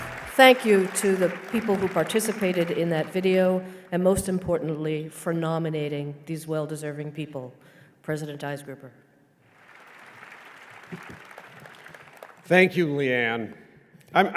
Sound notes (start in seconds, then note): 9.4 applause